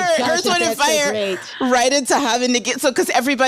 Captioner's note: speaks foreign language